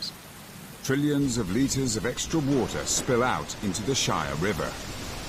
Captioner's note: rain falling; thunder rumbling